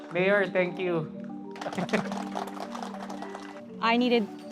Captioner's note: applauds